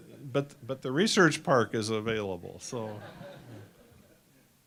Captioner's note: laughter